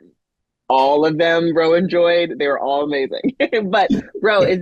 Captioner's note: chuckles